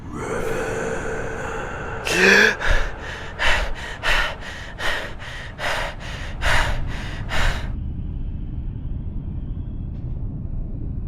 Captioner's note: Revan gasp and panting terrified